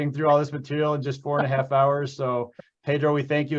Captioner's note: laughing